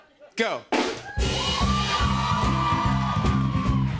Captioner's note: cheering